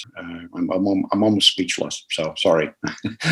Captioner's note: laughter